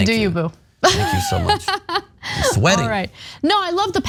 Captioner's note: laugh